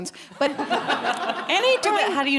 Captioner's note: audience laughing